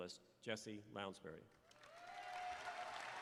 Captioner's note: applause